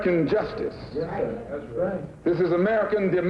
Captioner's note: voiceover